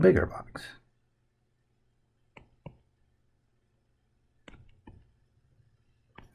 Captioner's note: writing Sounds